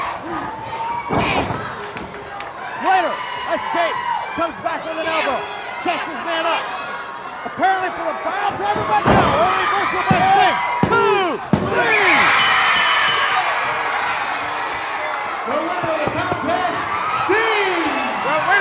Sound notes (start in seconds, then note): 12.2 bell ringing; 12.6 crowd cheering